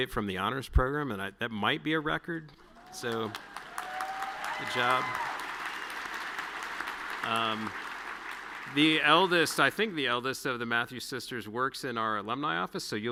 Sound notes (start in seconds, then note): 5.5 audience cheering and clapping